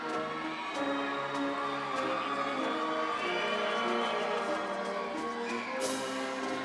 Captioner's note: audience cheering; upbeat ceremonial music